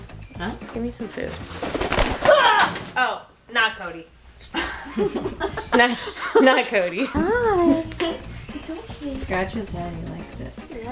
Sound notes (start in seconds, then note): 1.0 wings flapping; 2.2 Tracy screams loudly; 4.4 laughs softly